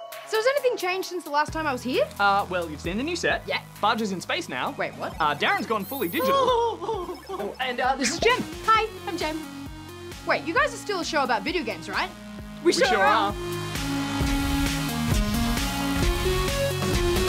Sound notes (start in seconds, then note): 6.2 chuckles